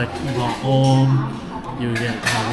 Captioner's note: speaking Vietnamese